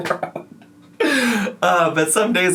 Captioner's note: laughs